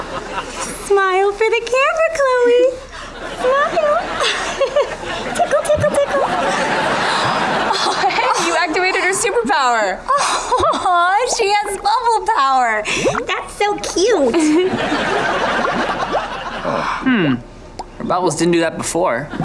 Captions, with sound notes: Smile for the camera, Chloe. Smile. [chuckles] Tickle, tickle, tickle. [gasping] Hey, you activated her superpower. Aw, she has bubble power. That's so cute. Hmm. The bubbles didn't do that before.